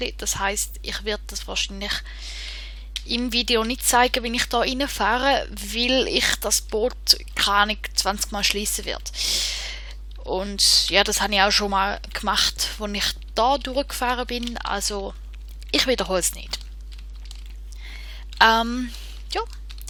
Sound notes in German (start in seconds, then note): 11.8 in einer Aufnahme